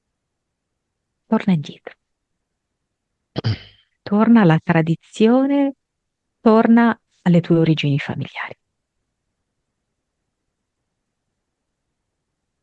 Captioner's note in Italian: schiarire la voce